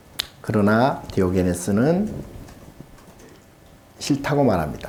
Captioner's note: speaking Korean